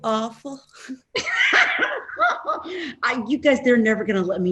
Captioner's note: laughing